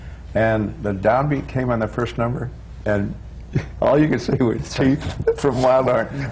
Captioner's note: laughs